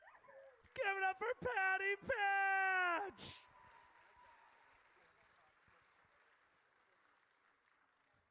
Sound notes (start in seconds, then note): 3.4 audience cheers